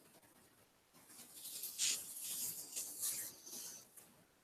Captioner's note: hands rubbing together, then silence